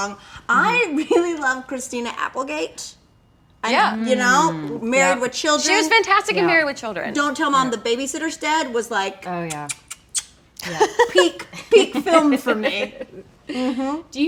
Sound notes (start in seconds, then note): 9.4 kissing; 10.6 laughing